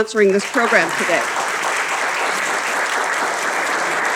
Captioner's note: applause